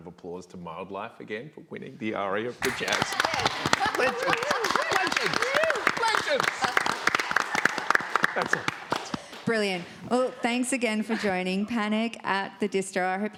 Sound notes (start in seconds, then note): 2.6 crowd applauds